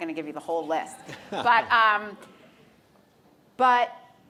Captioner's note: audience laughs; laughs